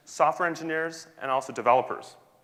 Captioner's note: none